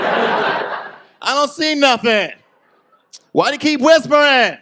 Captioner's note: audience laughs; yelling